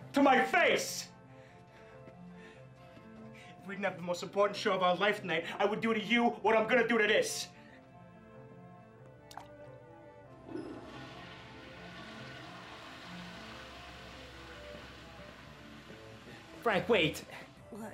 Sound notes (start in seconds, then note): 9.2 plunking; 10.4 toilet flushing